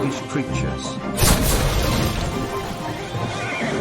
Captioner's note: cannon Fire